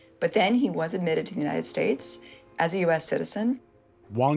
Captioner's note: none